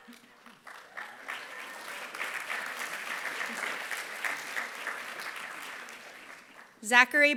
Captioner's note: applause